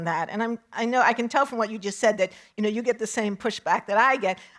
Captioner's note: none